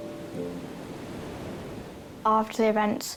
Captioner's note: waves surge